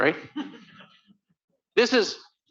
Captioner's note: laughter